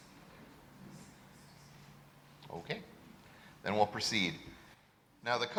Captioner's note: silence